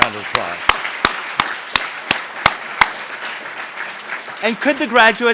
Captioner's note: applauds